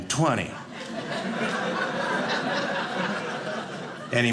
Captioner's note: audience laughing